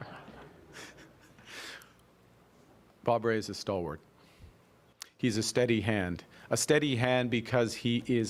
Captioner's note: laughter